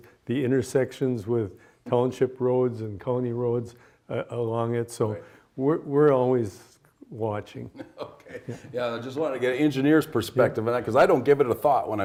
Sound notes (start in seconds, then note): 7.7 laughs